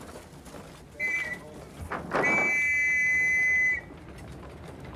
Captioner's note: blows the whistle